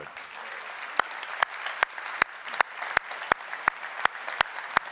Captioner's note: applause